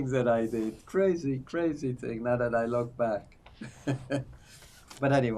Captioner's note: laughing